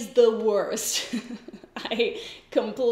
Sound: giggles

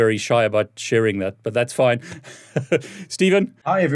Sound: laughs

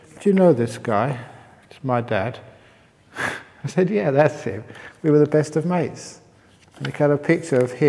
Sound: chuckle

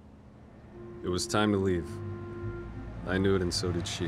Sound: A sound of a car driving

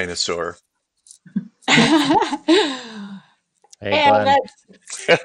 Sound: laughs; laughs

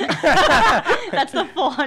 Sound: laughing

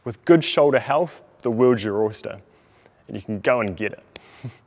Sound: laughter

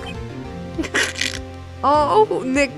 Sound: A fart of a laugh

